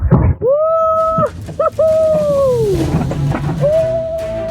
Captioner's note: scream